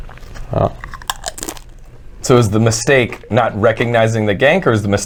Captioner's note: cronch